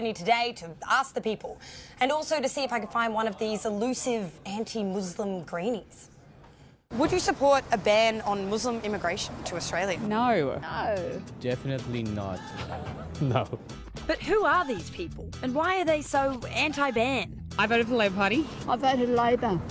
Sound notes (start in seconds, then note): 12.3 laughs